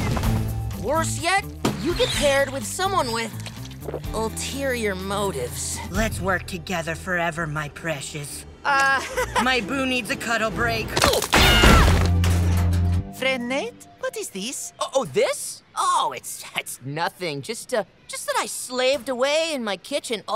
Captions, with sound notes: Worse yet, you get paired with someone with ulterior motives. Let's work together forever, my precious. - Uh, [chuckles] - My boo needs a cuddle break. [screaming] Friend Ned, what is this? Oh, this? Oh, it's- It's nothing. Just a- just that I slaved away in my kitchen all night